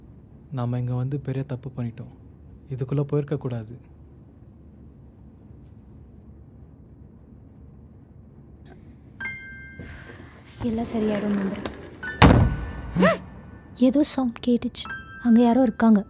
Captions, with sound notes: We've made a big mistake coming here. We should've not gone in here at all. I hope everything will be normal. - [thud] - [both gasp] I heard some sound. There's somebody in there.